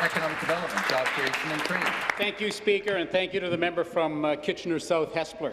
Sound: applause

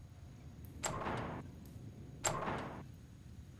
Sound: locked doorknob sound

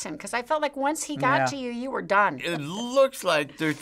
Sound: none

